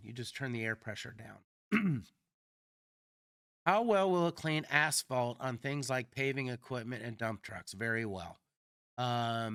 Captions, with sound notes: You just turn the air pressure down. [Clears throat] How well will it clean asphalt on things like paving equipment and dump trucks? Very well.